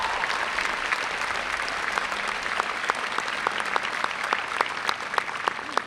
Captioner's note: cheering and applause